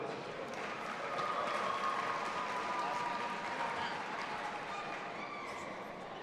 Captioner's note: audience applauding and cheering